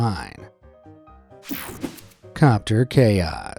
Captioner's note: screen whooshing